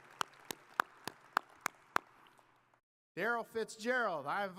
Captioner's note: audience applauding